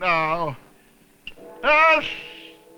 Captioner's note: clock gongs